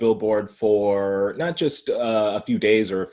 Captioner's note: laughing